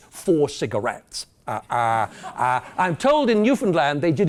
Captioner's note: laugh